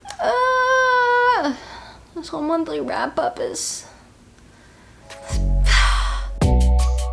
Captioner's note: sigh; trying not to scream and sighs again